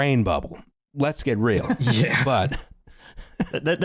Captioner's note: laughter